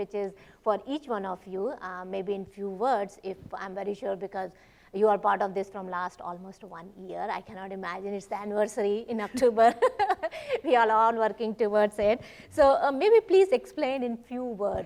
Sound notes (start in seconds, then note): 5.9 laughs